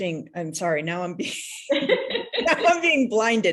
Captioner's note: laughs